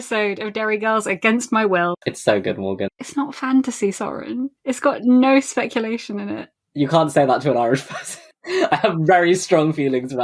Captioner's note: laughing